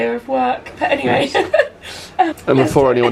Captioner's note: laughs